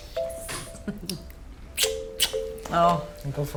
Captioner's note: both laughing